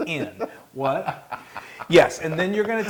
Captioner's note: laugh